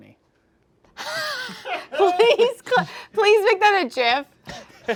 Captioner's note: wheezes